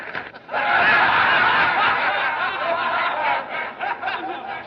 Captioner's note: laughter Continues